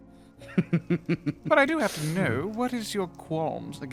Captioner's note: laughs